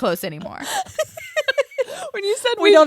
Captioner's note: laughs